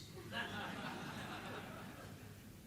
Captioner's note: laughter